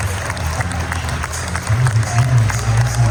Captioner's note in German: applaus